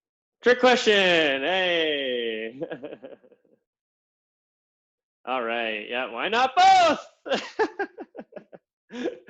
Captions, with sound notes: Trick question. Hey. All right. Yeah. Why not both? (laughs)